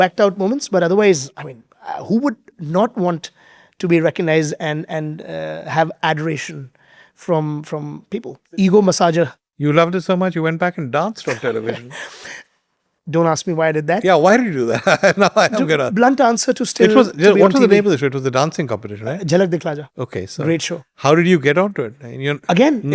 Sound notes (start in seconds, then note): 14.7 both laughing; 14.7 chuckling